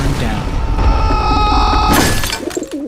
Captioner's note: Scout screaming; glass breaking